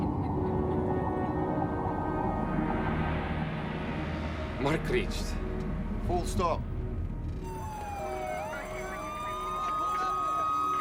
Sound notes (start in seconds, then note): 8.5 phone filter speech